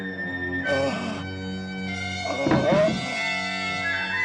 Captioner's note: ghoul groaning